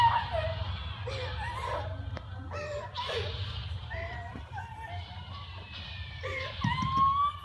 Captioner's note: incomprehensible sobbing